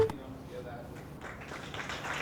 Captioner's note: applause